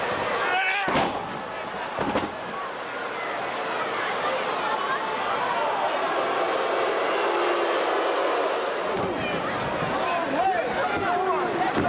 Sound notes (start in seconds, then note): 1.0 fighters grunting; 2.0 body thudding; 6.8 crowd booing